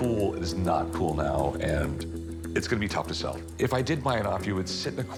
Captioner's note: none